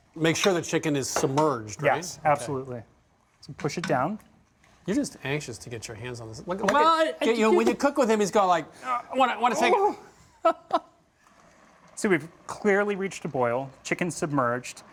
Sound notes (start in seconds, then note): 8.8 laughs